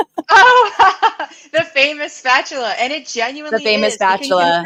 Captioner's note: laughing